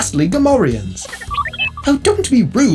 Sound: R2-D2 noises

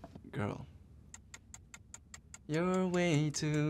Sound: timer ticking

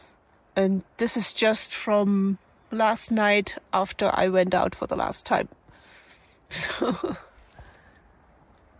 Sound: laughs

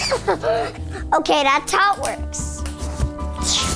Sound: laughs

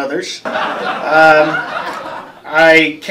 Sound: laughter

